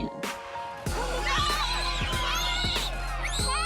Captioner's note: children screaming